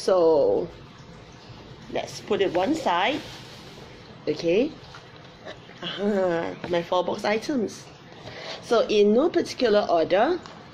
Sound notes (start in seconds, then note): 5.8 giggles